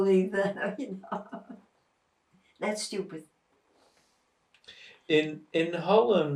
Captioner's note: laughing